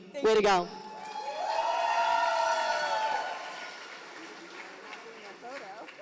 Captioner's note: audience applauding